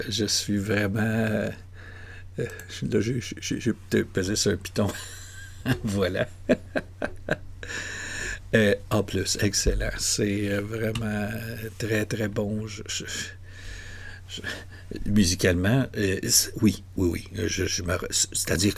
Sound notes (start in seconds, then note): 7.7 laughs